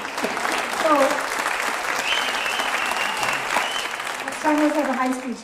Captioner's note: applause